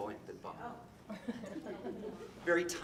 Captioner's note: audience laughing